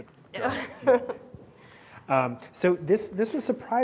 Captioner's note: laughing